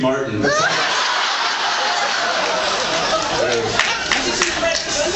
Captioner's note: laughs